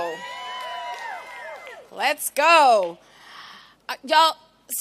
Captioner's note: cheering